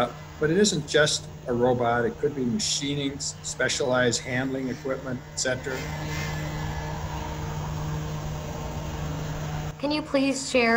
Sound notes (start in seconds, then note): 5.9 machinery moving